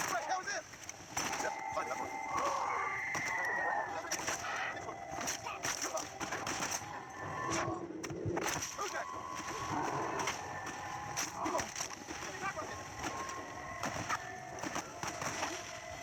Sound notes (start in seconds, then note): 2.4 zombie screams and fires continuously